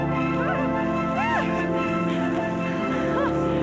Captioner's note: shouting